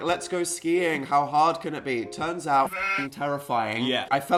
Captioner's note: bleat